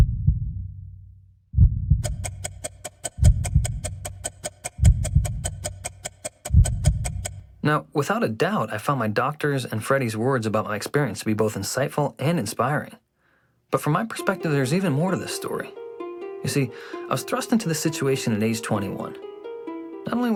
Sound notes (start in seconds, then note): 1.9 timer ticking